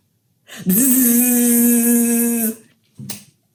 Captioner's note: makes a buzzing noise